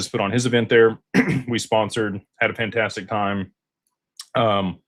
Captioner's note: clears throat